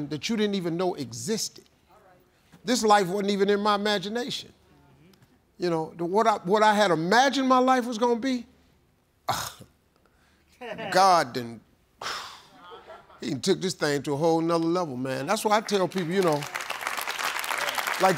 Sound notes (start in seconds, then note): 8.9 sighs; 15.2 applause